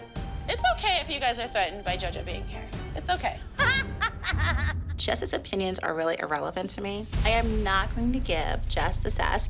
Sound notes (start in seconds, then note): 3.6 laughing